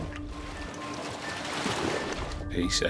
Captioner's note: waves crash